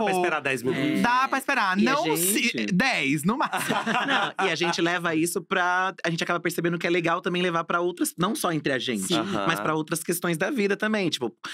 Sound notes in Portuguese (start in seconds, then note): 3.4 risos